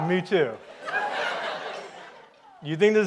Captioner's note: audience laughs